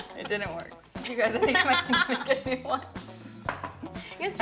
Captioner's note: laughter